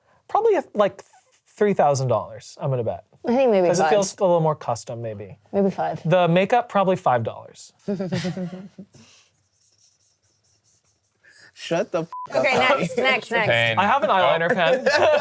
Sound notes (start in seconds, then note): 7.9 chuckles; 12.1 beep; 13.5 laughs